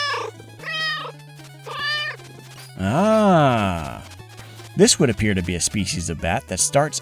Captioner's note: meow, meow